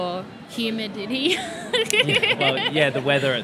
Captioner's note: laughs